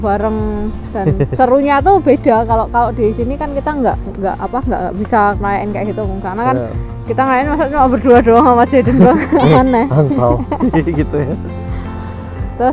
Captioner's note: chuckles